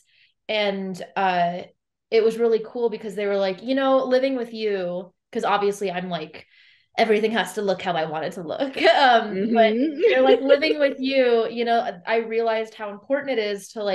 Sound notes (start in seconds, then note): 9.3 laughs